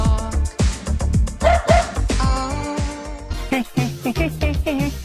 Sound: dog barks; funky music

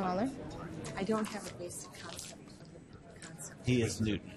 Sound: voiceover

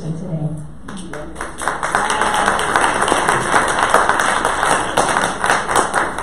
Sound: audience applause

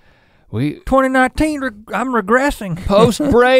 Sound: chuckles

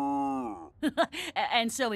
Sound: laughing

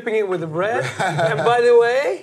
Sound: laughing

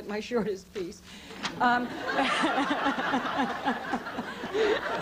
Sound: laughter

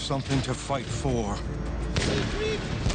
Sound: rifle firing; rifles firing

